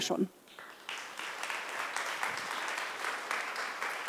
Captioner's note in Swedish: Applause